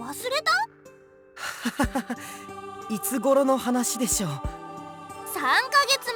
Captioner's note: awkward laugh